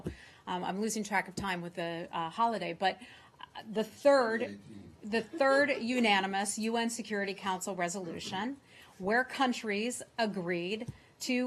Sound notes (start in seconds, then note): 5.1 laughter